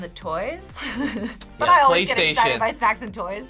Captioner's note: laughs